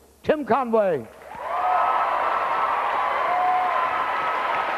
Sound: cheers

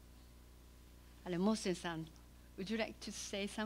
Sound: non-english speech

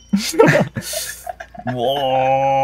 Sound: laughing

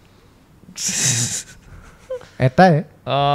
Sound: laughs

